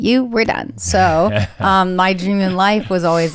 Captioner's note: laughs